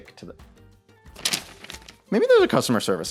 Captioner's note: paper rustling